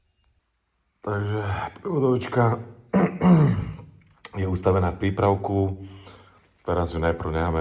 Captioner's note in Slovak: odkašľanie